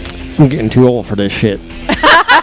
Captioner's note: laughs